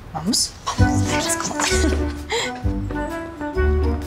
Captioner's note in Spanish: Ríe